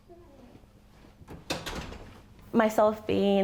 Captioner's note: door opening; door closing